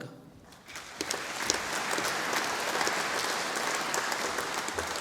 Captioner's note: audience applauding